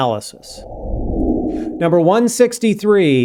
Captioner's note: air whooshing